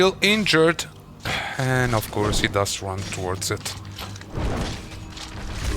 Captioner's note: sigh